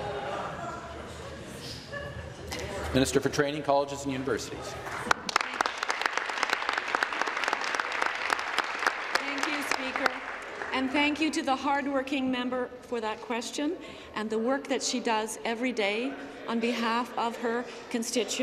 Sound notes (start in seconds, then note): 9.9 applause